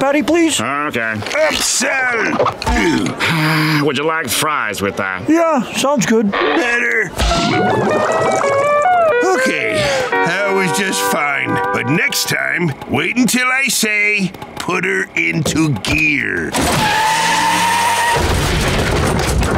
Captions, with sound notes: -Okay. -Upsell! [sighing] Would you like fries with that? Yeah, sounds good. Better. Okay, that was just fine, but next time, wait until I say, "Put 'er into gear." [screeching, thudding]